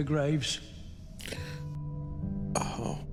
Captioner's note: sharp, emotional inhale